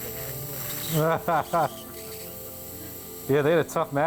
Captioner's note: laughing